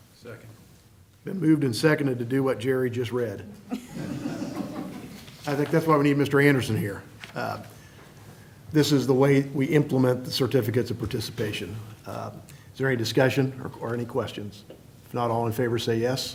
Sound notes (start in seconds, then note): 3.7 laughter